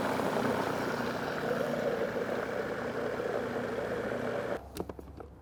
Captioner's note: food processor grinding